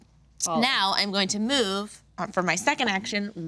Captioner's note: none